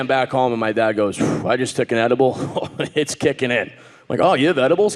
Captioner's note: laughs